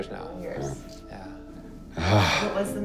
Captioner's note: sighs